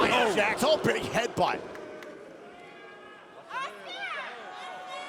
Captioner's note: crowd boos